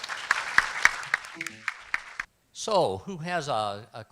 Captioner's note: applause